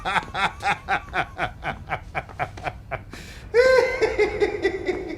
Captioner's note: Jock continues cackling